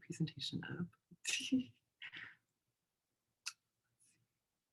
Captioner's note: chuckles